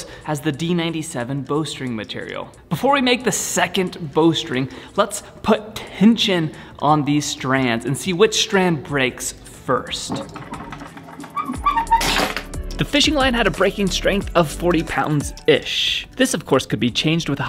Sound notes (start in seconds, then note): 10.1 pulley squeaking; 12.1 string snap